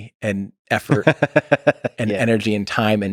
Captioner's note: Lex laughs